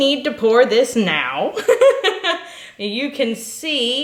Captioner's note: laughing